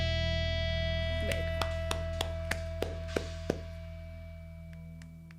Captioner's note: hands clapping